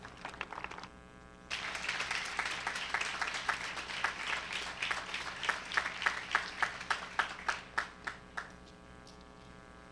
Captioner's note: cheering and applause